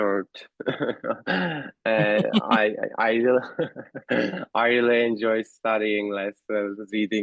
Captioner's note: laughter